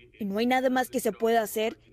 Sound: HABLA EN INGLéS

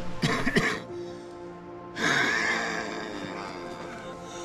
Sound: coughing

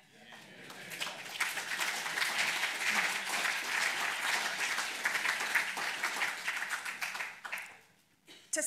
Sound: applause

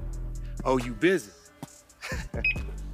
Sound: chuckles

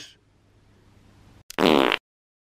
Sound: fart noise

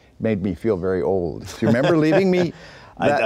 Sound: laughing

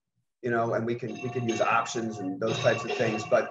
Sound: bell ringing

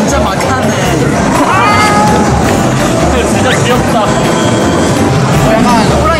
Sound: meow! Kitty scratching

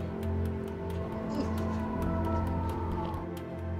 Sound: distant sirens blaring

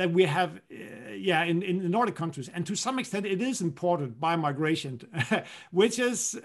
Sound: laughter

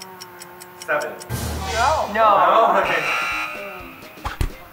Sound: scary sound; incorrect sound

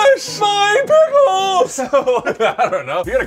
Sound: laughing

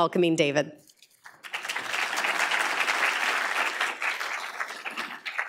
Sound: applause

